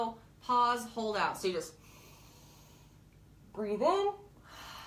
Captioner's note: breathes deeply